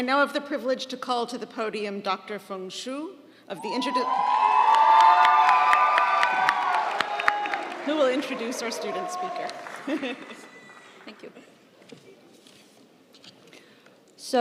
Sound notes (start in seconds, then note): 3.6 audience cheering; 4.0 audience applauding; 9.4 laughs